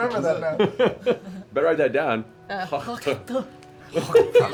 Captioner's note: hacking spit